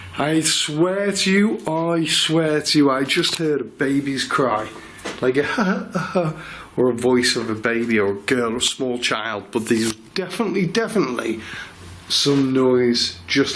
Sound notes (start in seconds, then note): 5.7 imitates baby